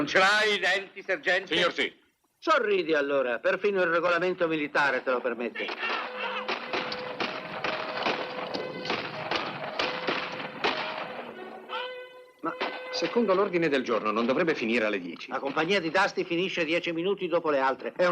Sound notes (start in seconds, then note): 5.6 bugle sounds, gunfire